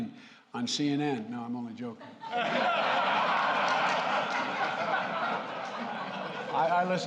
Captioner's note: laughter